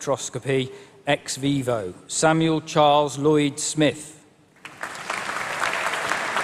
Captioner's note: applause